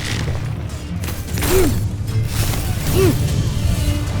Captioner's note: tense music playing; arrow swooshes & clangs; grunting